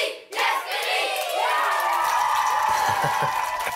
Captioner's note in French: applaudissements